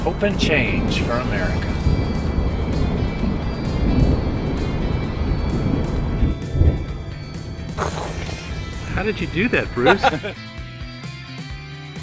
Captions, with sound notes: Hope and Change for America. (Rumbling Thunder) How did you do that, Bruce?